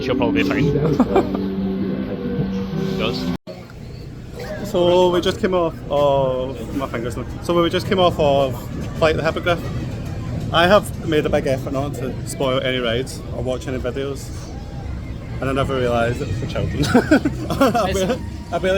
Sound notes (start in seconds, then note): 0.5 laughs